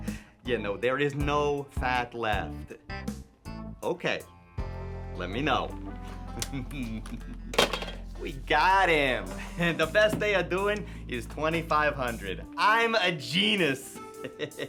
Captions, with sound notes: Yeah, no, there is no fat left. Okay, let me know. (Jewels chuckling) (phone thuds) We got him, and the best they are doing is 2,500. I am a genus, (laughs).